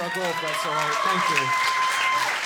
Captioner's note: audience clapping and cheering